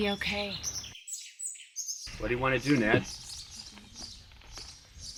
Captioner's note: birds chirp